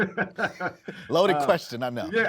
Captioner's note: laughing